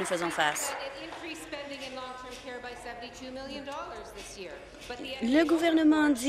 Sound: applause

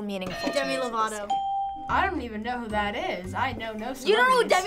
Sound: ding

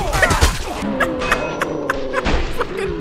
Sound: laughs

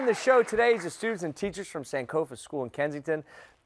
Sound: cheers and applause

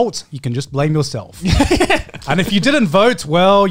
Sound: laughs

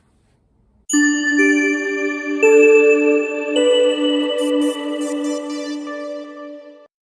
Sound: chime

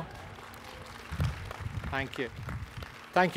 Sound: audience applauding

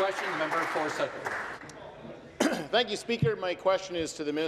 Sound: applause

